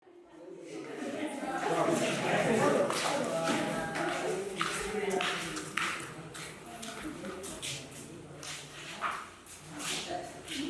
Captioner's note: people chatting